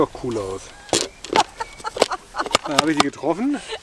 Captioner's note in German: Sie lacht